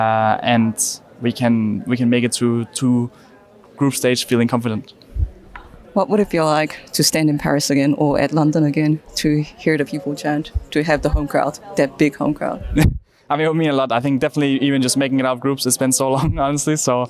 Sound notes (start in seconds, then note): 12.7 laughs